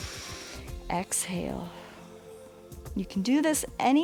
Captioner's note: exhales; inhales